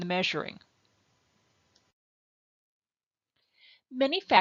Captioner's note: silence